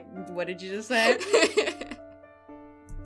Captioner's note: laughter